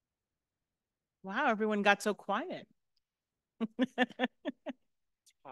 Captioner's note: laughs